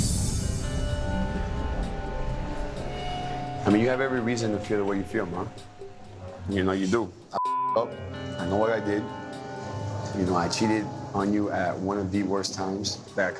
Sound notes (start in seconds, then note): 0.0 dramatic music; 7.4 beep